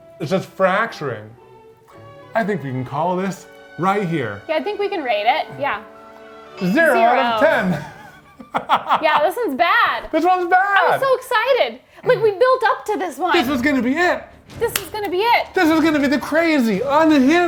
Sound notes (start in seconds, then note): 6.7 laughing; 14.7 hands clapping